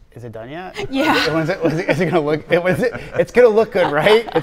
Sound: laughing

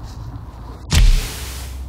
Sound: match strike

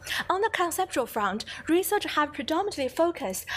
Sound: none

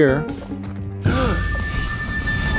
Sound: Iroh gasps in astonishment

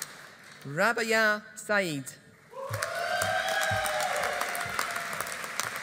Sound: audience applauding

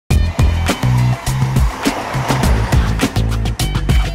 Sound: train roars past

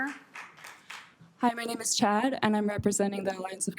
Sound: applause

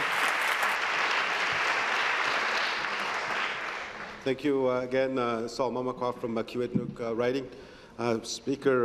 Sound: applause

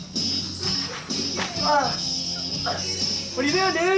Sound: surprised

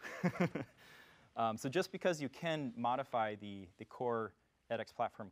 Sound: laugh

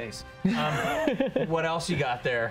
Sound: laughs

